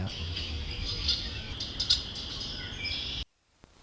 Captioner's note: birds chattering